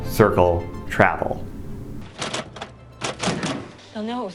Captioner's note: door slams